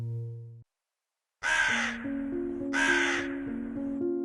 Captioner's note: cawing of Crows